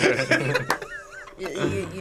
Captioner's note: laughs